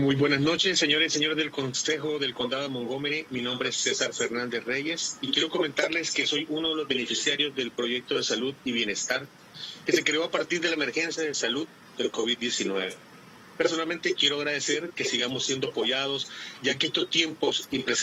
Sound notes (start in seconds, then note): 0.5 spanish